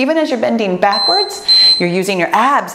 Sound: timer beeps

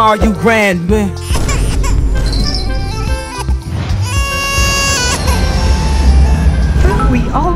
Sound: crying

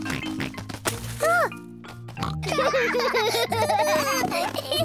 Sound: both laugh

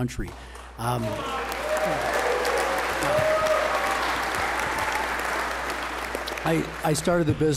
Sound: applause

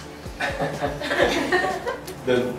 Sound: laughter

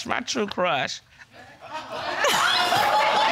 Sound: audience laughing

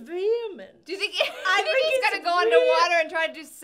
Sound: laughs

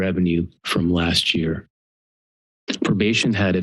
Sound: pause

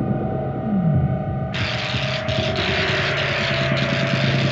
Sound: sparking

